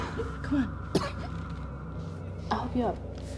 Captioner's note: Claire coughs